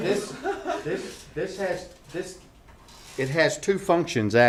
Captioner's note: laughter